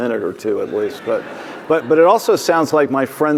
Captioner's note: audience laughing